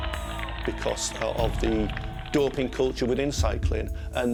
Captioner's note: crowd cheering and clapping